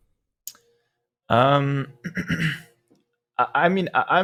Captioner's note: clears throat